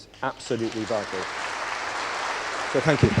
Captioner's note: applause